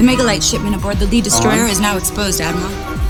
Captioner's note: movie dialogue plays